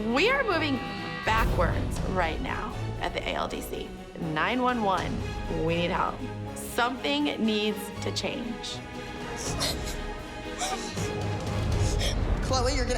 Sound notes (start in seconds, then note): 10.5 sobbing